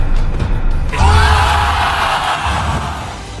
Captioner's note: audience exclaims